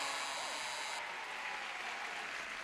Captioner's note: audience cheers